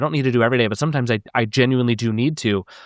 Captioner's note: none